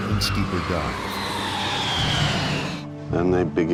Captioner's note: airplane engine roaring